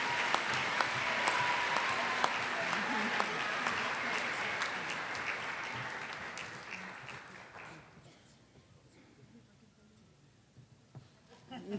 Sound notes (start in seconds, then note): 2.9 applause